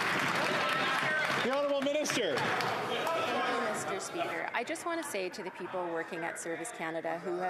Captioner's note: applause